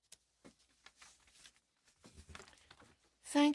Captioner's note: speaking in french